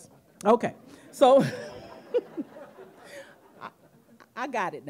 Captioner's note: audience laughing